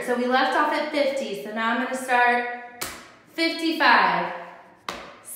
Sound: stamps foot

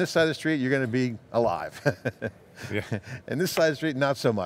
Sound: laughs

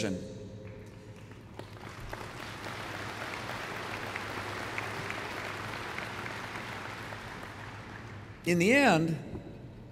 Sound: applause

